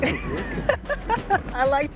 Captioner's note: laughs